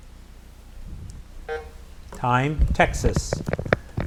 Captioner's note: buzzer buzzes